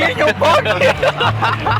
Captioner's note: laughter